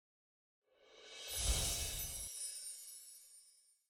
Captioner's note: bells chime